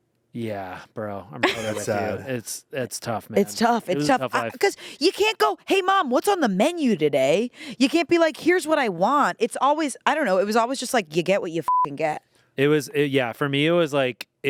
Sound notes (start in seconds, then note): 11.6 beep